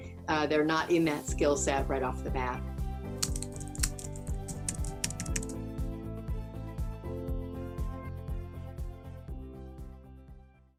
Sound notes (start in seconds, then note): 3.2 keyboard typing; 6.9 warm music